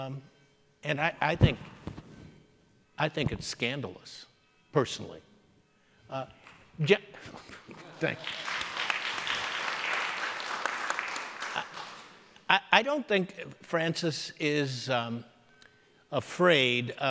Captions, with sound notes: And I think it's scandalous, personally. (scattered applauding) Thank you. (audience applauding) I don't think Francis is afraid of criticism.